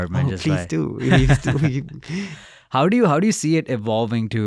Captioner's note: laughs